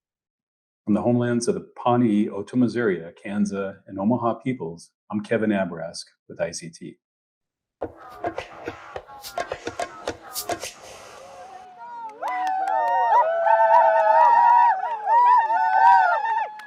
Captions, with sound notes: - From the homelands of the Pawnee, Otoe-Missouria, Kanza and Omaha peoples, I'm Kevin Abourezk with ICT. (upbeat Native music) (Natives ululating)